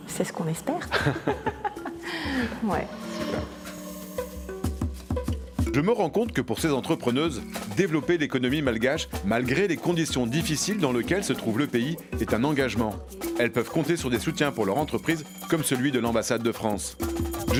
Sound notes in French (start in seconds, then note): 0.8 rires